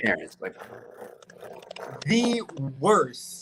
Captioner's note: tongue trilling